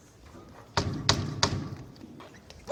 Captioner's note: knock knock knock